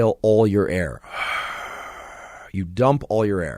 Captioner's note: exhales deeply